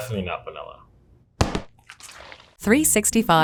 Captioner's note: tub thudding